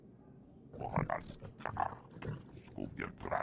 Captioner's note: speaking foreign language